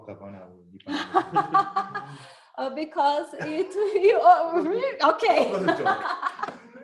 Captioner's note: laughs